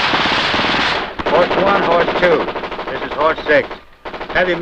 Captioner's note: gunfire sound